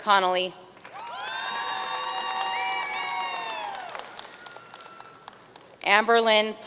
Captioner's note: audience cheering and applauding